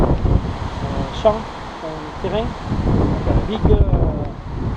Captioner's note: French